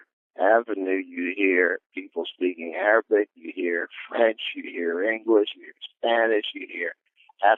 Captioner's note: french